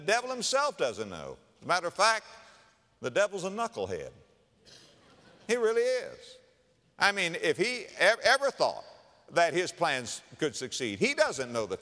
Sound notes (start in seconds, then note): 4.9 audience laughter